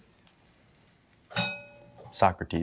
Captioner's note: bell dings